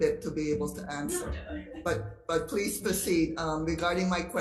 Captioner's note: chuckles